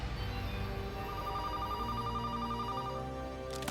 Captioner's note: phone ringing